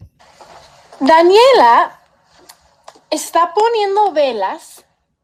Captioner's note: teacher speaking Spanish